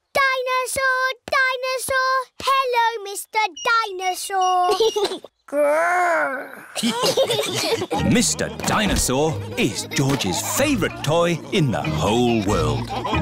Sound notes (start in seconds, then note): 6.6 giggles; 6.7 laughter